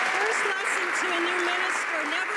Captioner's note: some Applause